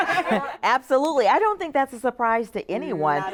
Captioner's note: laughs